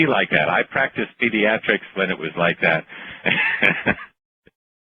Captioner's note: laughter